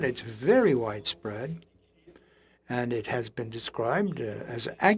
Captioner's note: speaking French